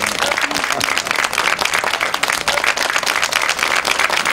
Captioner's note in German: Jubel